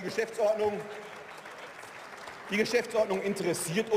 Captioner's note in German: Zwischenrufe und Beifall